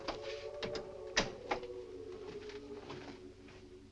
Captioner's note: door closes